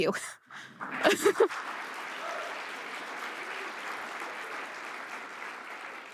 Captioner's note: audience applause